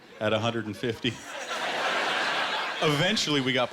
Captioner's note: laughter